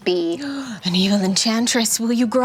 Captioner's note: gasps